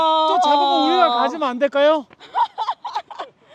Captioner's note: haha